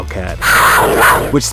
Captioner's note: wildcat growl